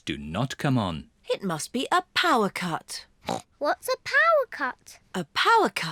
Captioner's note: grunts